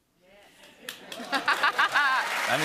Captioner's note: cheers and applause